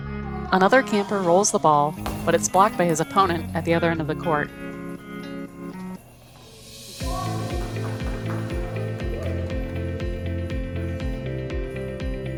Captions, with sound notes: Another camper rolls the ball, but it's blocked by his opponent at the other end of the court. [Clapping]